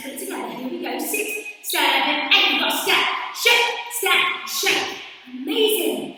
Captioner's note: counting 6 7 8